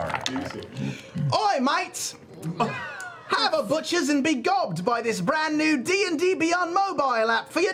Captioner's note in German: grausamer britischer Akzent